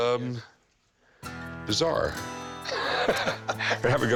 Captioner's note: both laugh